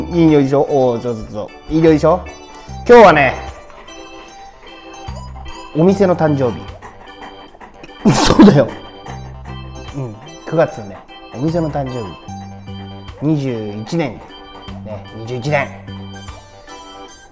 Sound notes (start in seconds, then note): 8.0 laughs